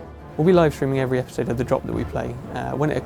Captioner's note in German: auf Englisch